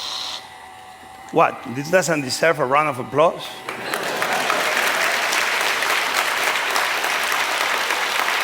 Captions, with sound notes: What, this doesn't deserve a round of applause? [APPLAUSE]